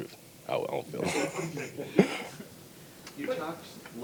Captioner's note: laughs